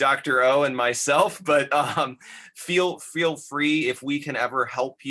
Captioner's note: laughter